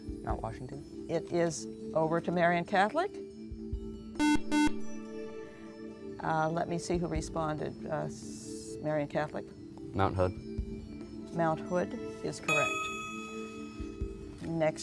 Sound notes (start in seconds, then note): 4.2 buzzer